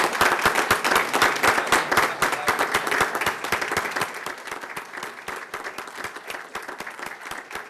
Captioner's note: applause